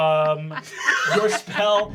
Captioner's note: Fabian laughing